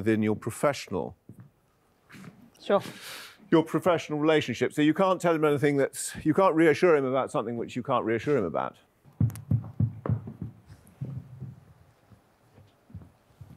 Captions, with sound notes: within your professional relationship. So you can't tell him anything that's, you can't reassure him about something which you can't reassure him about. (knocking on door)